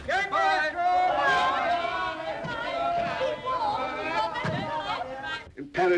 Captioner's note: passengers shouting farewell